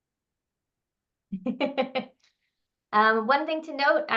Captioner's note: laughing